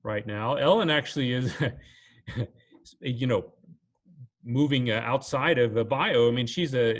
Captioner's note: chuckles